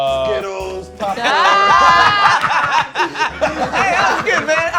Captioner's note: laughter